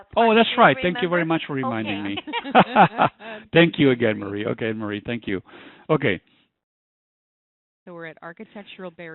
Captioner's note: laughter